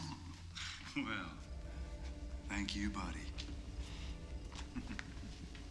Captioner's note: chuckles